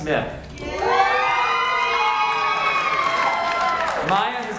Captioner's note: audience cheers